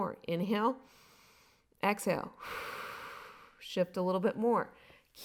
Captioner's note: inhaling; exhaling